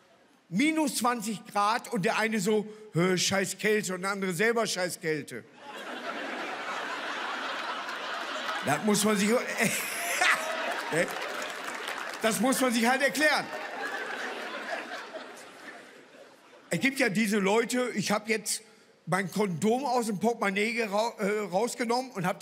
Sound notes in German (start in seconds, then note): 5.7 Lachen; 8.6 Er lacht selbst los